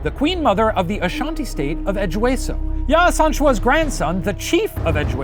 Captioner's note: none